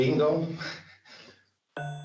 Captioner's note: chuckles